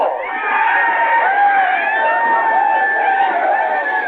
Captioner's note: yelling and gunshots